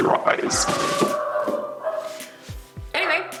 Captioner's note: dog barking